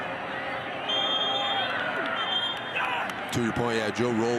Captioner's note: referee blows whistle